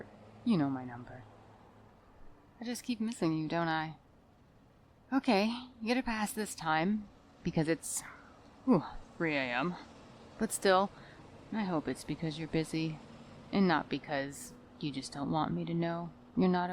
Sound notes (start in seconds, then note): 8.7 sigh